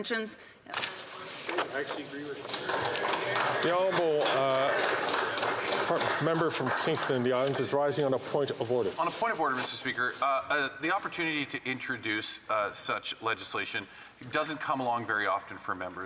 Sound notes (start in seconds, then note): 7.3 some Applause